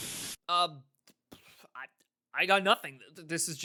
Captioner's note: pfff